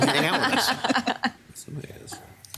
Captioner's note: council members laughing